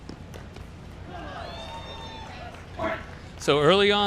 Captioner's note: crowd cheers